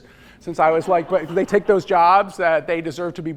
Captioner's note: laughter